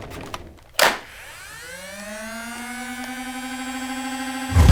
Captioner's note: laser sounds